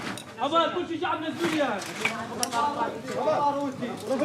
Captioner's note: Arabic spoken audio